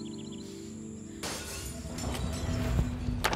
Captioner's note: Glass shattering